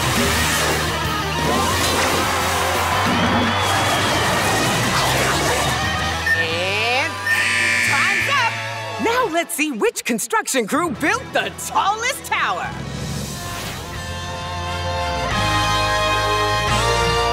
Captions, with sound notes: [cheering] Eh times up! Now, let's see which construction crew built the tallest tower.